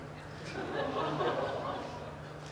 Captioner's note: audience laughs